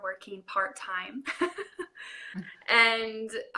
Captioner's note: laughing